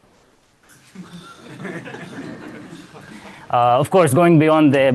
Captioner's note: laughter